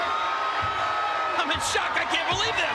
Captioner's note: spectators cheering